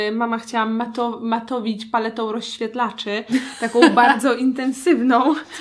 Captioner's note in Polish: śmiech